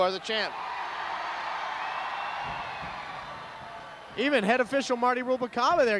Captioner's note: applause